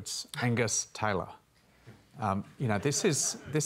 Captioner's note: laughter